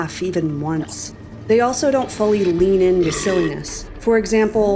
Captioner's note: NPC keeps burping, retching